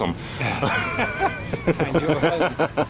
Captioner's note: both laughing